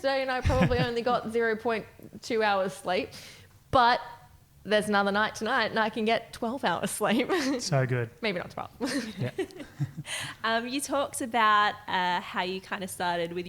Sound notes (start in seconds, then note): 7.2 chuckles; 8.9 laughing